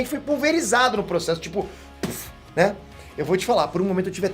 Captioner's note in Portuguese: puff